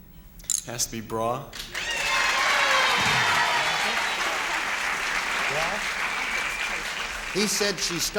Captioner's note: applause